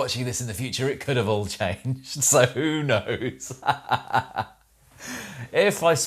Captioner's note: laughs